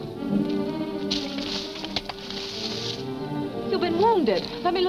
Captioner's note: leave rustling